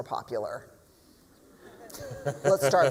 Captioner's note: laughter